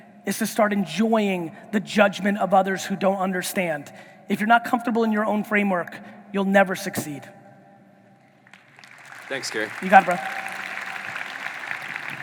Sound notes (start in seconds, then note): 8.4 audience applauding